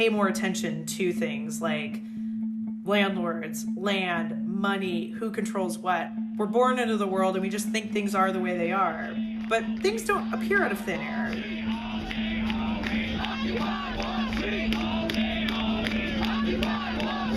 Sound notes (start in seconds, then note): 11.6 soundbite of montage; 14.1 chanting